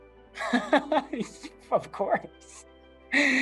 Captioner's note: laughs